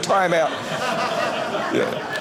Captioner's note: audience laughing